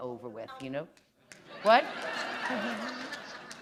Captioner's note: laughter